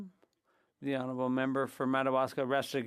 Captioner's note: speaking French